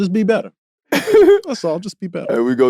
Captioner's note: laughing